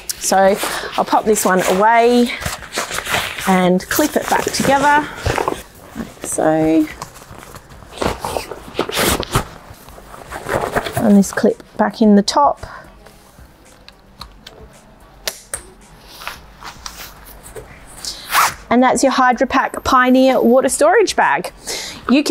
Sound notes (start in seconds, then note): 6.9 bag rustling; 15.2 clip snapping